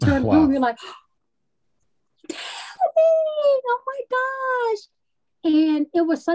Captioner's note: gasps